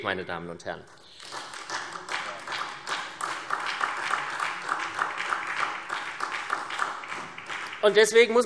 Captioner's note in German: Beifall SPD